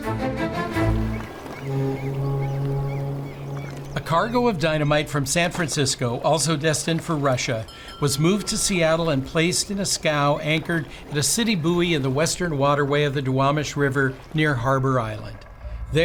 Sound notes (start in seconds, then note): 0.0 horn blowing; 0.0 suspenseful music; 1.3 birds chirping